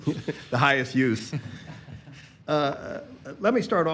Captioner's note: laughter